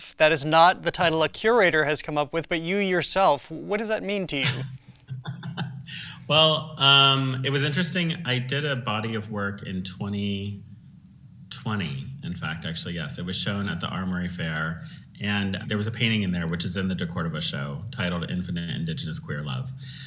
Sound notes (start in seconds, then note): 4.4 laughing